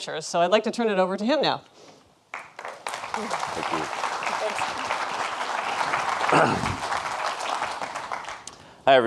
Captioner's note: audience applauds